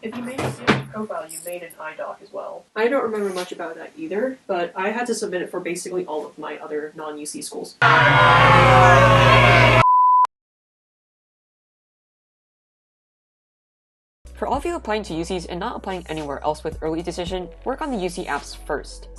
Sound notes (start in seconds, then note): 7.8 people and a dinosaur jeering, moaning and screaming; 7.8 electricity buzzing